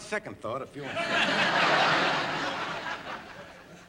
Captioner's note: laughter